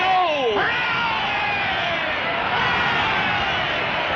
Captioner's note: crowd